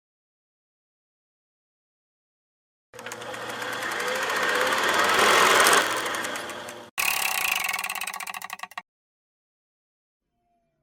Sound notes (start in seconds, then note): 4.6 mechanical whirring